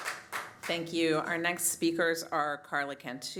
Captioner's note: applause